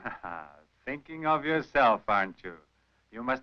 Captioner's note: chuckles